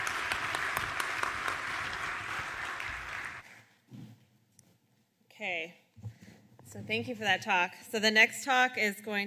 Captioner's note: applause